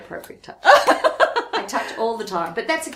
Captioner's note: laughs